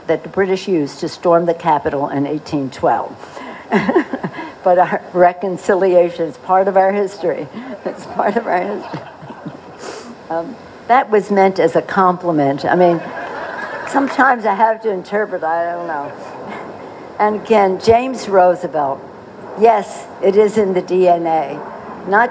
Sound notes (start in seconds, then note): 3.7 laughter; 15.7 laughter